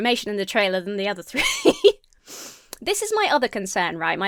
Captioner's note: laughs